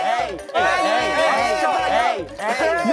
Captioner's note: booing from all around